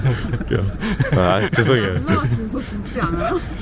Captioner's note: laughs